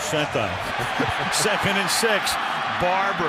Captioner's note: laughter